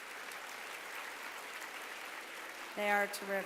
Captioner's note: applause